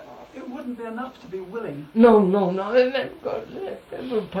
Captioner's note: laughs